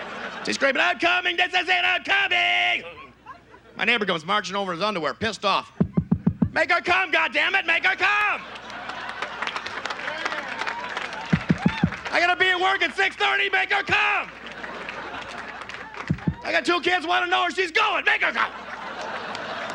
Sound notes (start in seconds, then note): 5.8 knocks; 8.5 audience laughs; 11.3 knocks; 16.0 knocks; 18.2 audience laughs